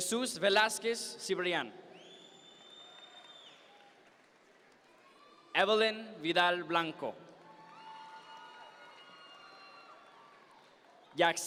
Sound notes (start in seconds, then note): 1.9 audience member whistles; 7.5 audience members cheer